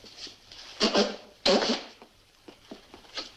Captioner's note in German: schnäuzt sich die Nase